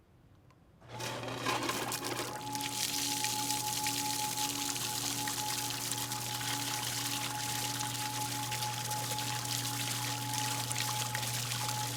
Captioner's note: sound of pumps and water splashing simultaneously